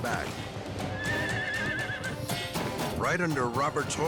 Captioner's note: horse neighing